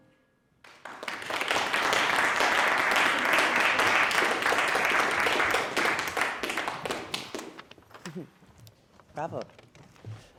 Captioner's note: audience applauding